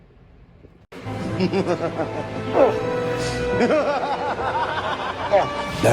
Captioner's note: struggles for air; Caprice laughs evily throughout